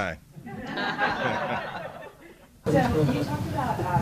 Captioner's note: laughter